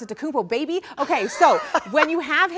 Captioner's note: laughs